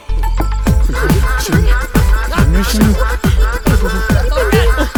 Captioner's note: murmuring